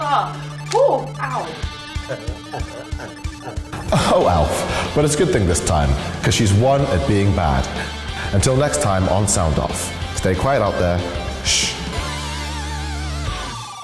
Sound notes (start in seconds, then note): 1.8 laughing; 2.1 Elf laughing, then slaps self